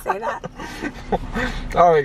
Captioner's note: chuckling